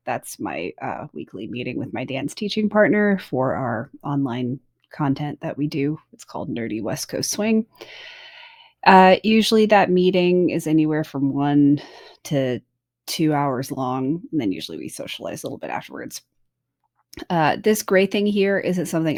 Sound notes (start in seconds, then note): none